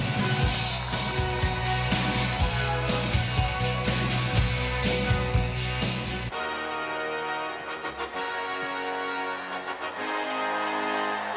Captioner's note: cheers and applause